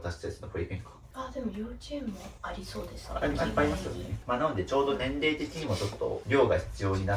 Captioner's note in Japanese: 鼻息